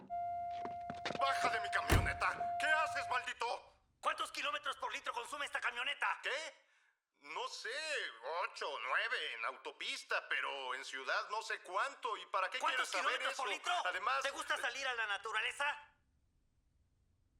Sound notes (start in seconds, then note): 5.0 yelling; 14.6 voiceover